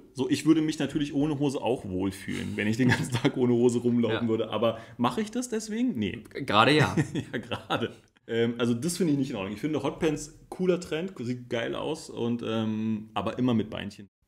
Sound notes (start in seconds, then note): 2.2 laughs; 6.8 laughs